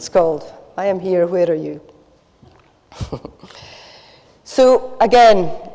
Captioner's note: laughs